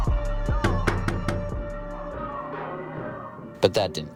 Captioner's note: upbeat music; door knocking